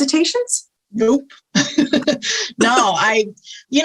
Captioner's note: laughs